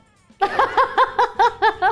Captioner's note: laughing